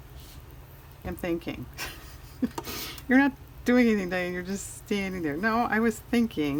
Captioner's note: laughs